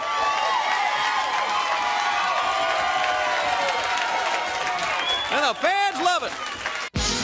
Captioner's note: crowd cheering